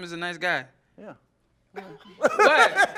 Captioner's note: laughing